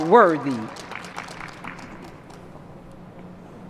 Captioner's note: applause